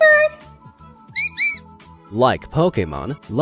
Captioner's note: bird speaking